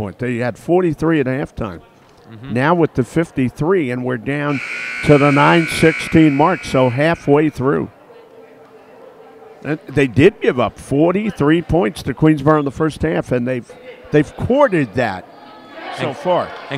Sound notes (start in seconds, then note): 4.5 buzzer sounds